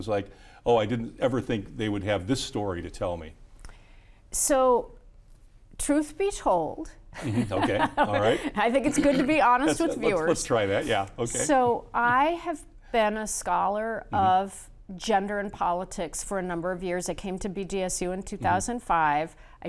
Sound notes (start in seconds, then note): 7.2 laughs